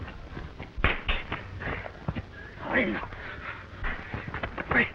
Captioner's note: punches cracking